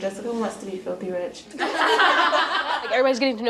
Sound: laughing

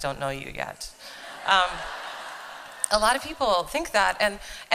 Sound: laughter

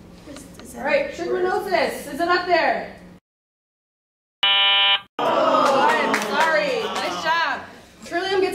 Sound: wrong answer buzzer

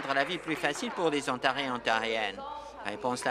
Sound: applause

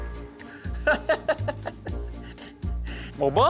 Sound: laughs

